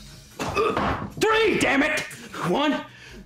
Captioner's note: groans